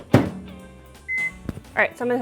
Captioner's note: microwave beeping